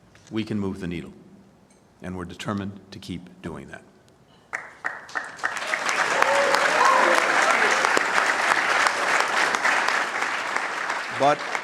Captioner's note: applause